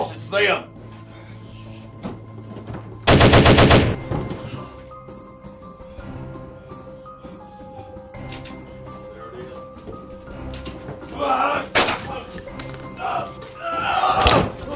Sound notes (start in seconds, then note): 3.0 guns firing; 6.0 man gasping; 8.9 gun clicking; 12.8 men groaning; 14.5 blows thudding; 14.5 men groaning